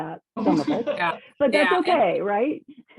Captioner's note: laughing